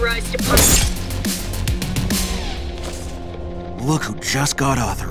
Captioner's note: grass crackling